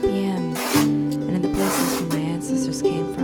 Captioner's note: fabric ripping